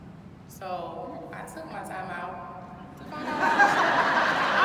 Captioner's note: audience laughing